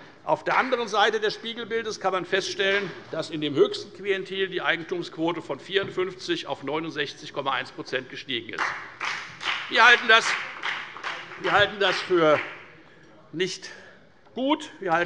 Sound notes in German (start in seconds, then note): 8.5 Beifall bei der FDP